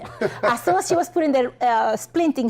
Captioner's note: chuckling